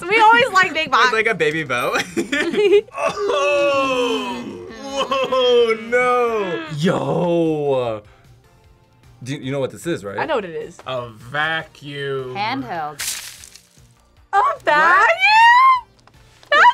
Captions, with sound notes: We always like a big box! - With like a baby bow. (both laugh) - Oh! - Hmm. - (laughs) Oh no! - Yo! You know what this is, right? - I know what it is. - A vacuum. - Handheld. (dust crackles) - A vacuum? - What?